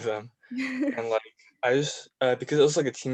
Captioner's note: laughing